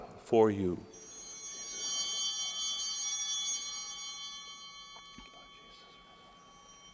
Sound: bell ringing

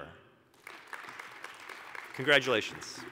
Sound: applause

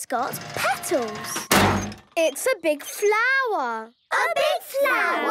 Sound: crane beeping

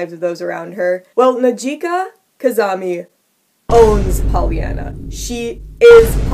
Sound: Vine Boom sound effect

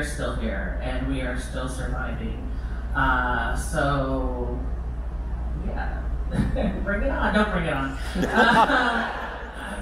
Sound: laughter

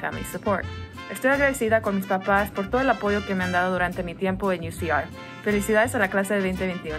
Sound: speaks in foreign language

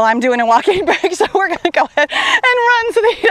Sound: laughs

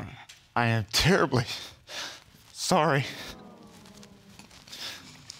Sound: sniffles

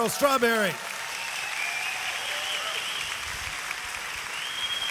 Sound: audience applauds

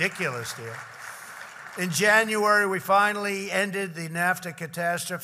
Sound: applause

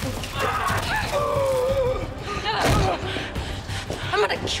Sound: groaning; gasping

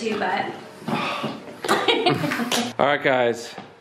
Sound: laughing

